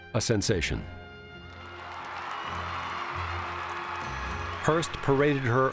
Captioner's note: crowd cheering